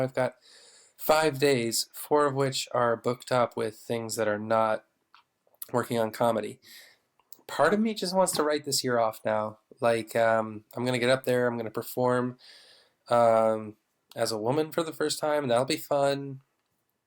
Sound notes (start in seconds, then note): none